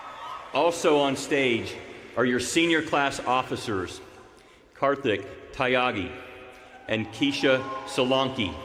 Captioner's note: cheers and applause